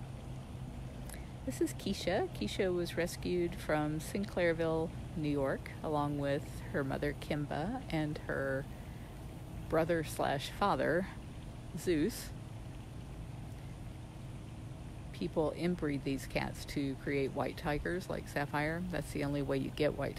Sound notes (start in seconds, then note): none